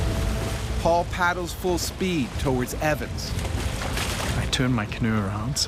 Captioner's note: voiceover